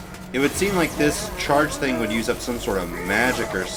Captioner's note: none